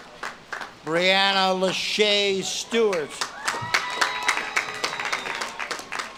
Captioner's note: audience claps and cheers